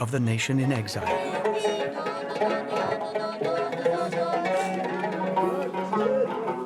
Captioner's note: mellow tungna music; instructor humming; mellow tungna music